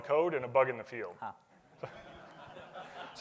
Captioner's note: laughter